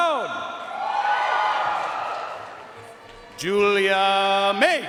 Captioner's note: audience cheering and applauding